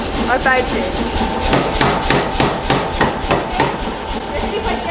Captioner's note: hammer thudding